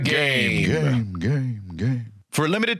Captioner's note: echoing